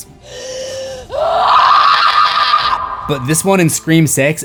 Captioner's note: screams